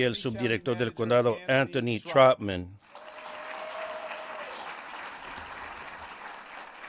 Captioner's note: applause